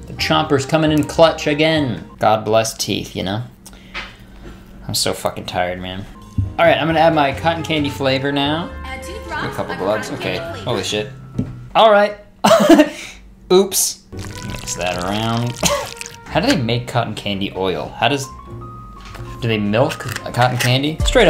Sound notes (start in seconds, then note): 12.7 laughing; 15.2 laughing